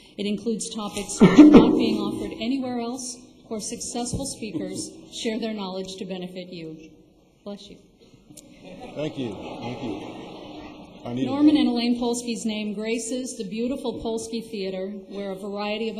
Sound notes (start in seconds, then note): 8.4 laughter